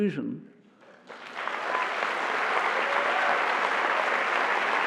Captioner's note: applause